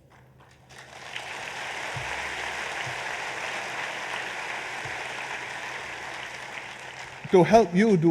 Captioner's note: applause